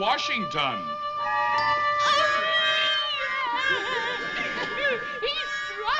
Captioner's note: sobbing